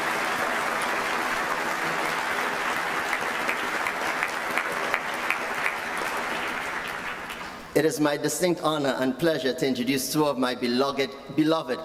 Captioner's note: applause